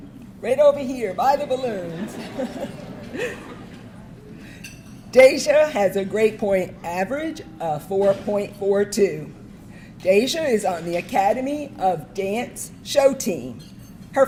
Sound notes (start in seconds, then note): 1.4 audience laughing